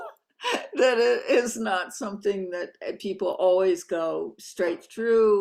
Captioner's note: laughing